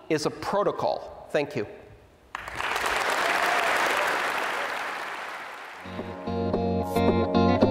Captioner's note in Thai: ผู้ฟังปรบมือ